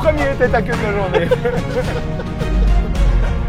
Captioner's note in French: Rires